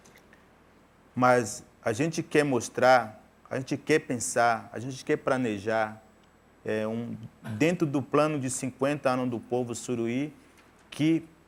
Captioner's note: speaking in portuguese